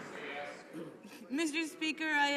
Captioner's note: some Applause